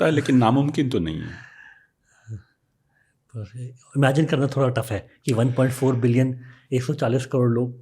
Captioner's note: speaks in Hindi